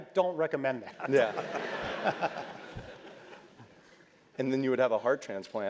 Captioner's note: laugh